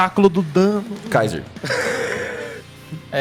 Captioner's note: laughs